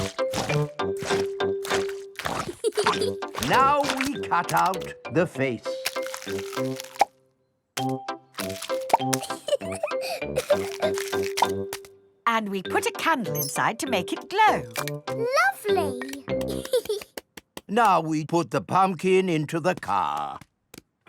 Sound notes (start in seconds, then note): 2.4 peppa giggles; 9.1 laughing; 16.4 giggles